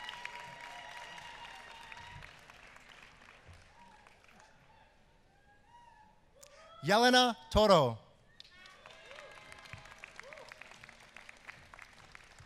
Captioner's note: applause